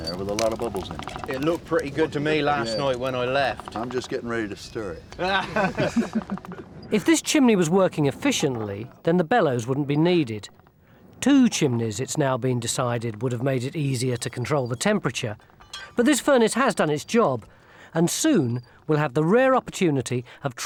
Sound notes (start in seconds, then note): 5.1 laugh